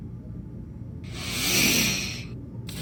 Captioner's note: Díbell hisses under breath